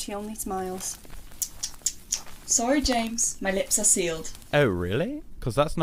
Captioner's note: clicking her tongue